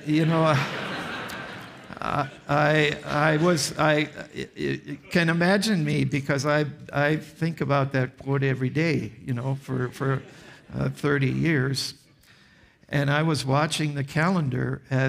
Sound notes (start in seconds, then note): 0.0 audience laughs